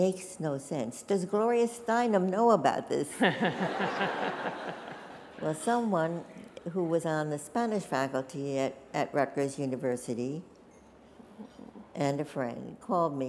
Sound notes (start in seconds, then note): 3.1 laughter